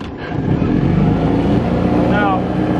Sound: engine roaring

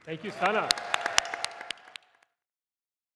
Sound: applause, cheering

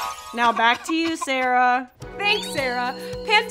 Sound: coughing

